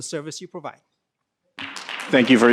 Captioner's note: applause